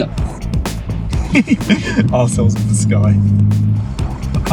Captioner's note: giggles